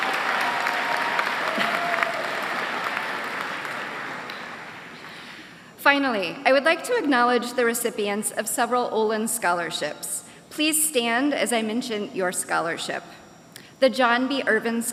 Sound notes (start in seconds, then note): 0.0 applause